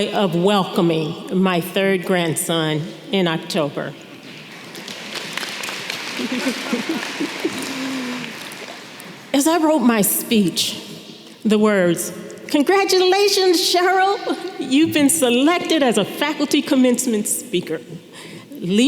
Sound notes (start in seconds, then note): 4.3 audience clapping